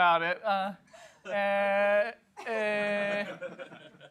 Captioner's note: laughter